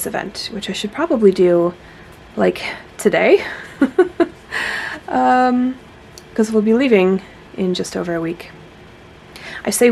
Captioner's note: nervous laughter